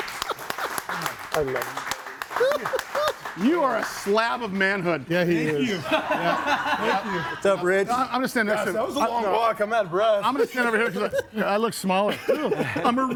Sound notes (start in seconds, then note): 2.8 audience applauds; 5.2 laughs